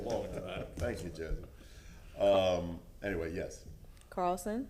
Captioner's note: laughter